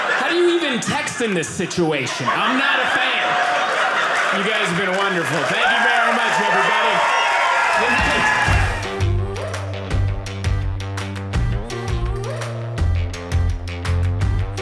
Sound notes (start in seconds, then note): 7.1 audience applauding